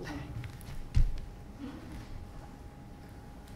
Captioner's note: feet thudding; woman giggling